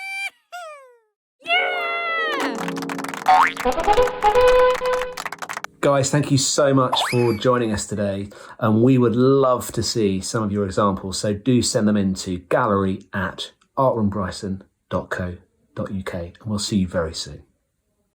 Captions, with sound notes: - Yee hoo! - Yeah! (audience applauds) (trumpets fanfare) Guys, thank you so much for joining us today. And we would love to see some of your examples. So do send them into gallery@artroombryson.co.uk. And we'll see you very soon.